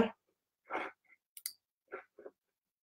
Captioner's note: mouse clicks